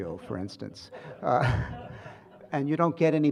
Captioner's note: laughter